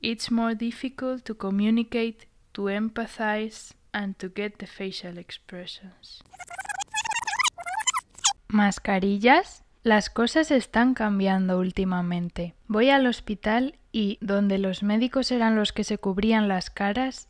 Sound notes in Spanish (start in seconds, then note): 6.2 Sonido de rebobinar